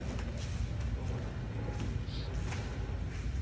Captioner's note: footsteps